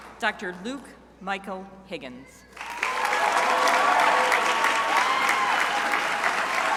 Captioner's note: crowd applauding